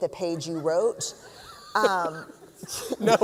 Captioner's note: laughter